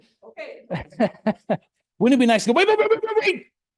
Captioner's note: laughs